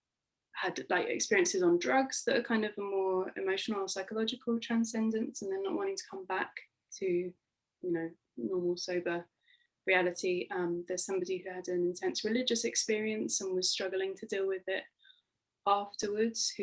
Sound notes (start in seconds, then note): none